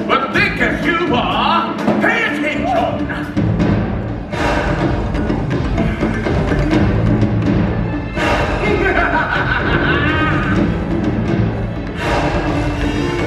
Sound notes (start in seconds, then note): 3.5 dramatic music; 8.6 Scar laughs